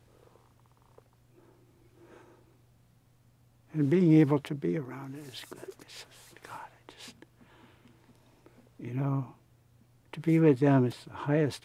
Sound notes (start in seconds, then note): none